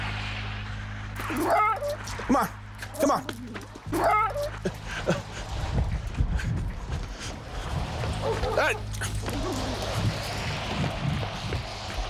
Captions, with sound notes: [dog barking] Come on, come on. [dog barking]